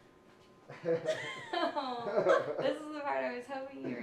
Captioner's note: all laugh nervously